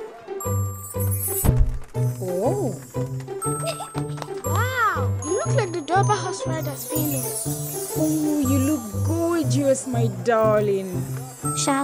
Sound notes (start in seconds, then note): 0.0 playful music; 3.5 giggling